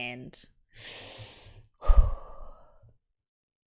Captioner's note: sharp intake of breath, breathes out